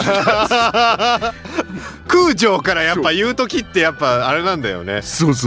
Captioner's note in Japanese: 笑い